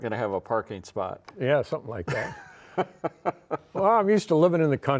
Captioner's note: laughs